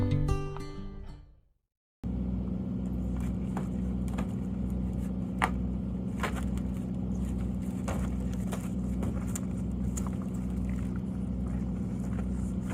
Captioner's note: intro Music; sounds of working